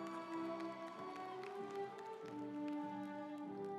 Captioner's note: audience applauds